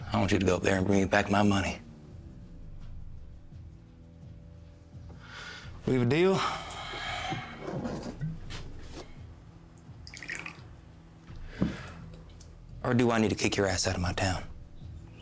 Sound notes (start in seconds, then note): 3.2 tense music continues; 10.0 liquor splashes